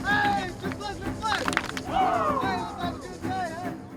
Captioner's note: players Clapping